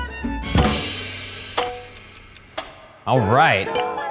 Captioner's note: cymbal crashing; clock ticking